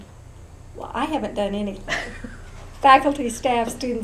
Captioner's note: laughs